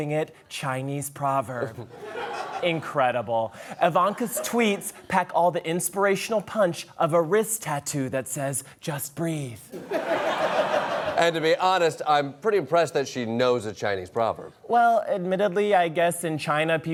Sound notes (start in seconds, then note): 9.7 laughter